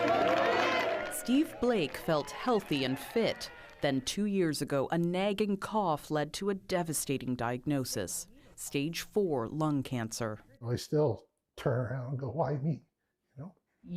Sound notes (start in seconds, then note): 3.7 cheering